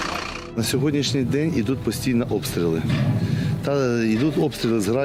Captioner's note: in Ukrainian